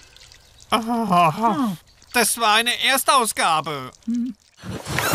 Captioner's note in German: seufzt